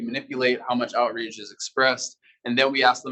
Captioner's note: male Voice